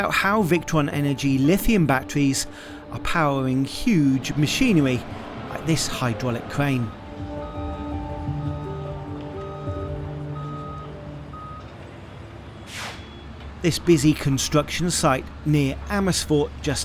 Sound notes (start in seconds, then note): 6.9 crane beeping softly; 7.3 smooth music